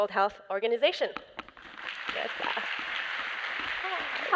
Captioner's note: applause